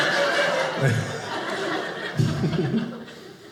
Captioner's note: audience laughing